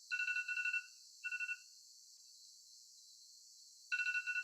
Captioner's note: phone rings